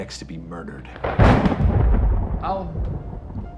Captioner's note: thunderclap